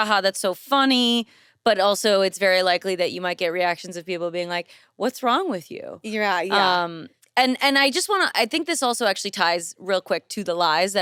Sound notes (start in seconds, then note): none